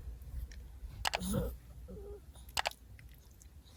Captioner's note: Ollie grunts again as she settles down